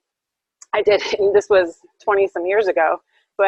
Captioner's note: laughs